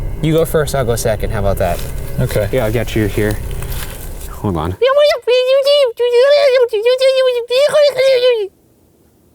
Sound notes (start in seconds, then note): 5.4 squeaking shrilly